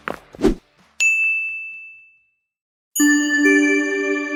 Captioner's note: footsteps; bell chime; electronic music